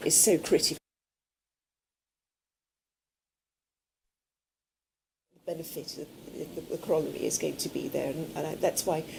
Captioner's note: break in audio